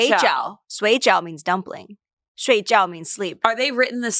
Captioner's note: everyone speaks foreign language; peaks foreign language